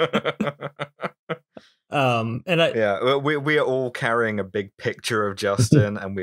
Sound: laughter

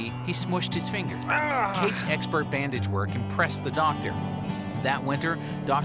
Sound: groans

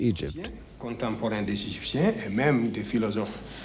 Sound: non-english speech

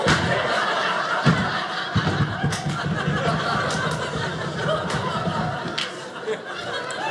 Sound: audience laughing

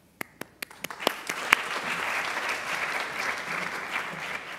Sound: audience applauding

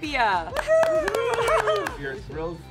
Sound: both cheering

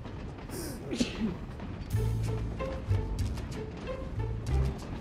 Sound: Tewkesbury sneezes

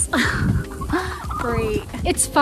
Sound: laughs

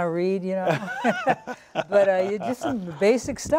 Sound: laughter

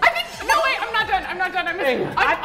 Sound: beep

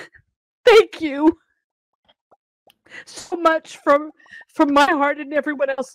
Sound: sobbing

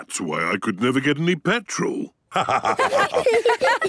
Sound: laughter

